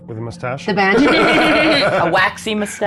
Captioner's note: laughs